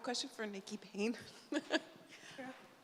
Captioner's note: laughs